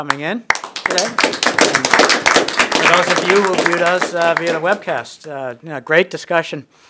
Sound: applause

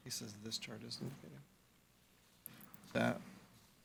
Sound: faintly speaking

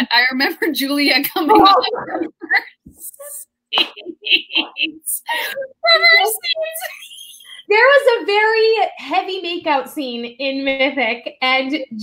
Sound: laughter

